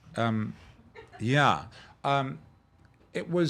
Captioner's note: laughing